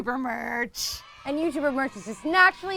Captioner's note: children cheering